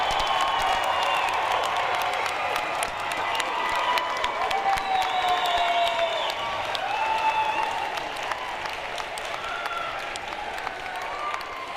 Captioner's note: cheering and applause